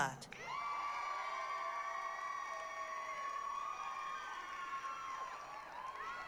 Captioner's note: applause, cheering